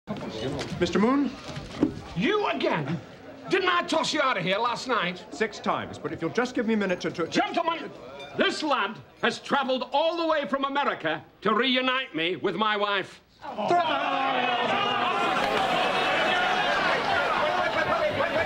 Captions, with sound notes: Mr. Moon. You again! Didn't I toss you out of here last night? Six times, but if you'll just give me a minute to-to... Gentlemen, this lad has traveled all the way from America to reunite me with my wife. ( crowd jeering ) Off you go. Wait, wait, wait, wait, wait, wait, wait...